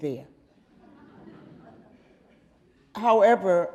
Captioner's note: audience laughing